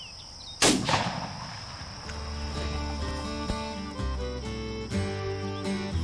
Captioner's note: country music; gun fires